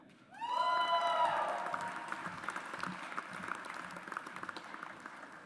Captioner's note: audience applauds